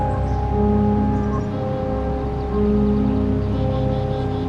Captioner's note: birds chirping